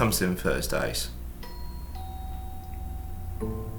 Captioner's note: doorbell chimes